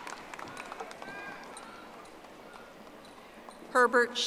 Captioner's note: audience applauding